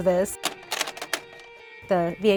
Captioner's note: tape clicks